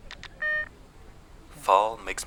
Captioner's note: camera beeps